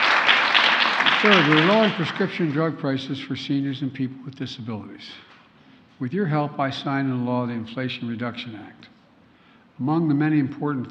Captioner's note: applause